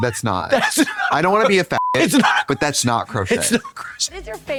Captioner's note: beep